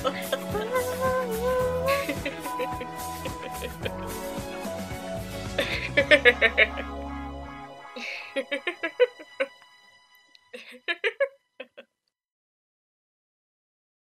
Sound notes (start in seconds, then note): 1.8 Hyde chuckles madly